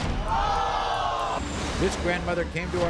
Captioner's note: crowd groans